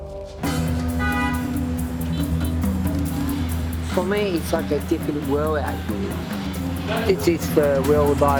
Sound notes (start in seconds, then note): 0.6 loud traffic noises